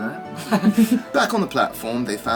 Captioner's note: readers chuckling